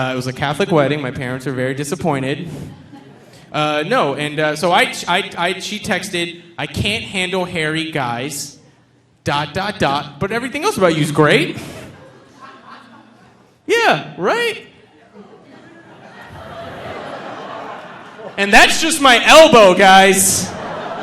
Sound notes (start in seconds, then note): 14.8 audience laughing; 20.8 audience laughing